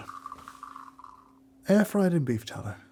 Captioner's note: coffee pouring